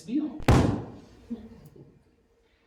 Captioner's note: audience laughing